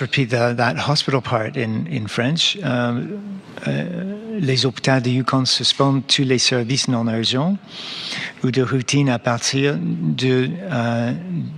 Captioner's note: speaking French